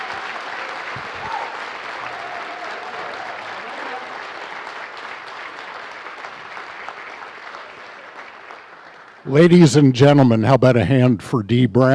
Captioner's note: applause